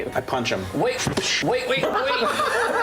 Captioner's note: punch noise; laughter